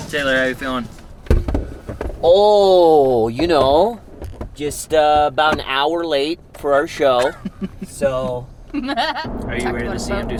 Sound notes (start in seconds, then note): 7.2 chuckling